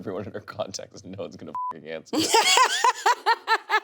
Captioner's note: beep; laughing